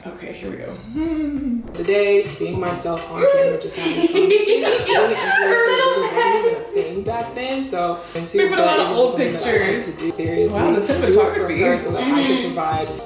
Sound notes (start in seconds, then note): 0.9 chuckles nervously; 3.1 laughs; 3.4 squeals